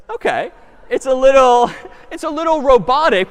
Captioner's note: laughter